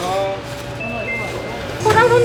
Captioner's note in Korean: 띵동